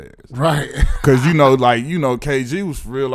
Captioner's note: laughing